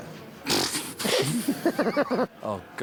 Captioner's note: both laughing